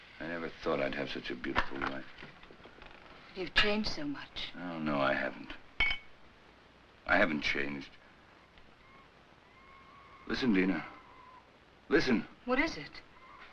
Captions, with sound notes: I never thought I'd have such a beautiful wife. - You've changed so much. - Well, no, I haven't. I haven't changed. (screeching in jungle) Listen, Dina. Listen. - What is it?